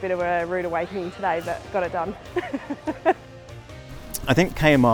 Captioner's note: laughs